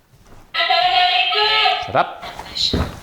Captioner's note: Boo buddy indistinctly chattering